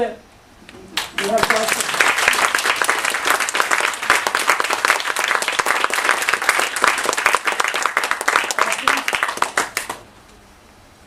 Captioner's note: applause